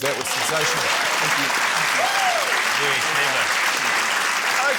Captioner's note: applause